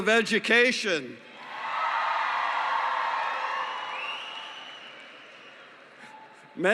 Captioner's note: cheering